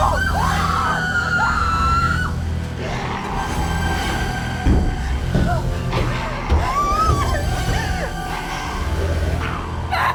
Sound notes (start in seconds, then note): 0.0 all screaming; 6.2 crying; 7.3 dramatic music